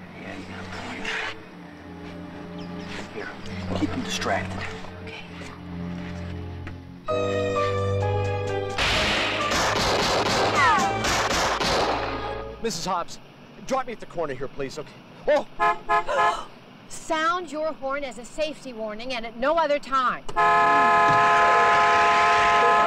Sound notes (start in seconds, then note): 8.8 guns firing; 15.5 horn honking; 16.4 gasps; 20.3 horn honking